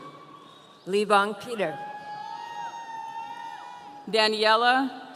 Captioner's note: audience cheering